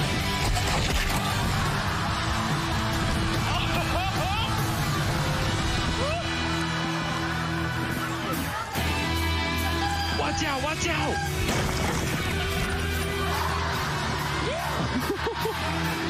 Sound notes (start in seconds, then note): 14.6 laughing